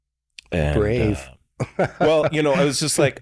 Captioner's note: chuckles